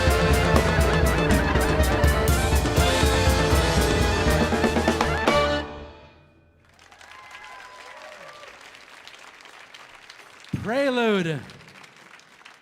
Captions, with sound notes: (audience applauding) (audience cheering) - "Prelude to a Knish".